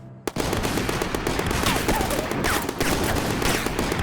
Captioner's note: guns firing